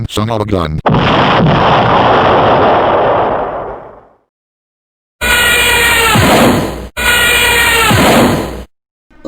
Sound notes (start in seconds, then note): 0.8 boom!; 6.0 crash!; 6.0 zoom!; 7.7 zoom!; 7.8 crash!